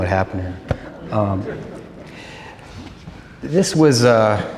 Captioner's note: laughter